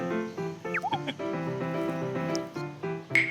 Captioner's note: whining